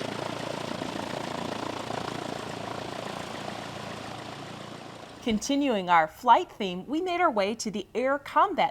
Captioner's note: airplane engine